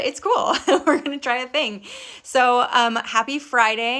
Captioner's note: laughing